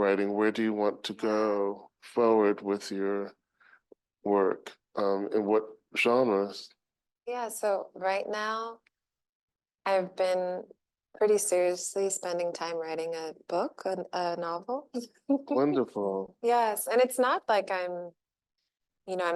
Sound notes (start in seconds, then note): 15.3 chuckling